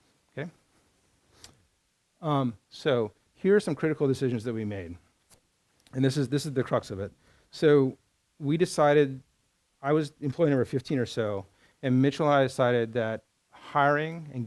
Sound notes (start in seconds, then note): none